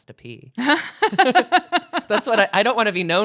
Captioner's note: laughs